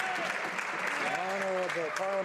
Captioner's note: some Applause